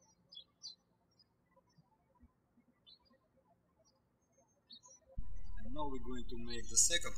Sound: birds chirping

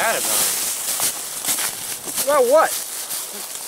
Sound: leaves rustling

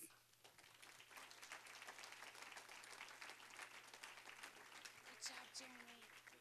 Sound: applause

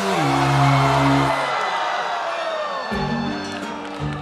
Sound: audience groans; sour note plays; dramatic music plays

